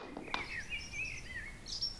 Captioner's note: birdsong